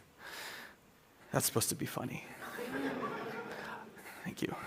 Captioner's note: laughter